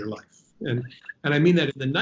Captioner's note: laughing